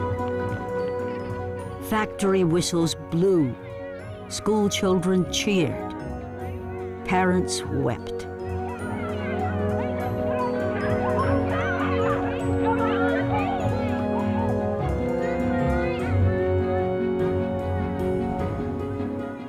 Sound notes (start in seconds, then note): 8.4 kids cheering, shouting joyously